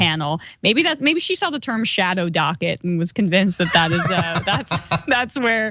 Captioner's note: laugh